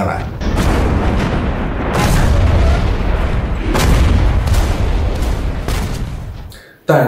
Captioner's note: sound of artillery